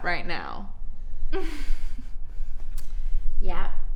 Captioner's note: laughs